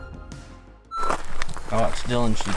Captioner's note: beep